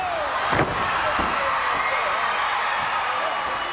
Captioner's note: crowd cheers